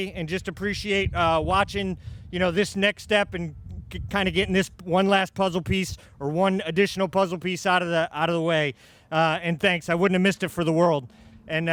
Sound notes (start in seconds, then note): none